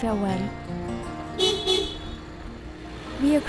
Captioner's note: car honking